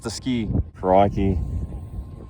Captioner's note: australian accent